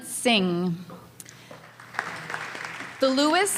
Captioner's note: applause